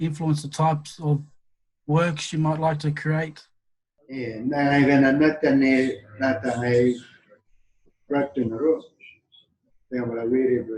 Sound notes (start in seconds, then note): 4.7 speaking in Yolŋu